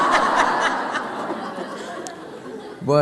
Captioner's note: laughter